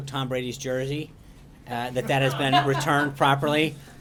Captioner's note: laughter